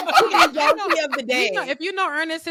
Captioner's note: laughing